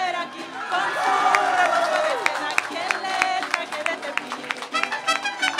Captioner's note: cheering and applause